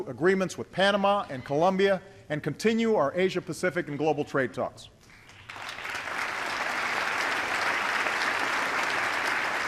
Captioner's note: applause